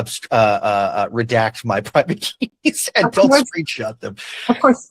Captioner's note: laughs